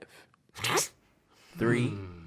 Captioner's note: Rhett snickers